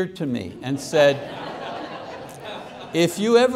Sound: congregation laughing

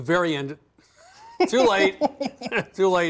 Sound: laughing

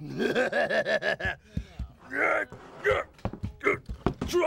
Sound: laughing goofily; groaning

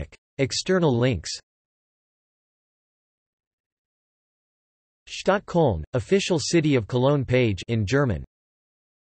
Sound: in German

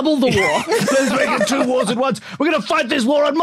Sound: group laughing

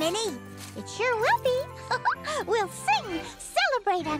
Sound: giggles

